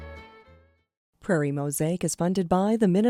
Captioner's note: voiceover